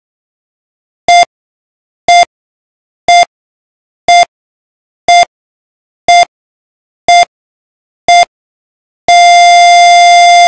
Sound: sound of hospital life monitor

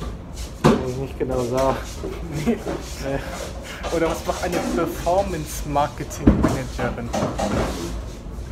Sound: he laughs

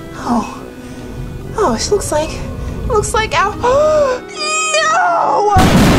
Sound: gasps

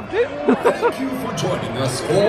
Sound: laughs

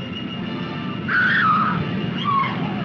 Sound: scream

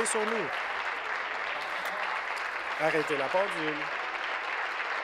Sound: applause

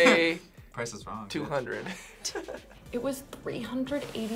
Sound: laughs

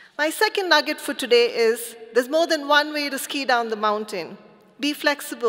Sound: none

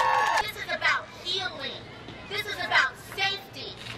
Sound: audience cheering

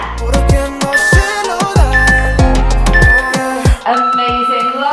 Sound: timer beeping

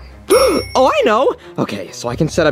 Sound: bell dings

